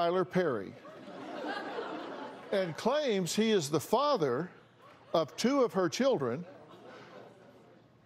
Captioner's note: laughter